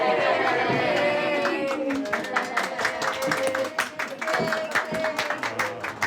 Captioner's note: applause